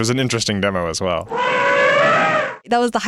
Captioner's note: elephant trumpeting